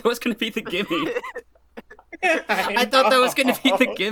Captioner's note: laughter